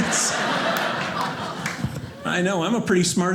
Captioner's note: audience laughing